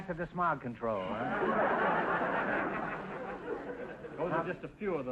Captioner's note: audience laughter